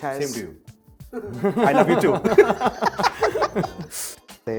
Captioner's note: laughing